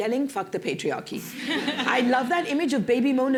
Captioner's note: laughter